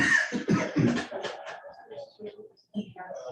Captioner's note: coughing